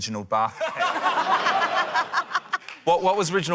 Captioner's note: laughter